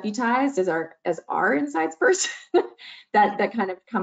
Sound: chuckles

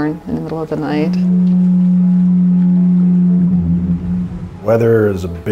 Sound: foghorn

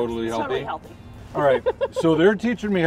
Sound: laughs

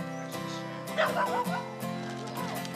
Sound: dog barks; soft country music

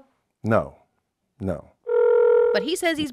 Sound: phone ringing

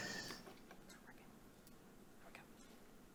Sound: whispering

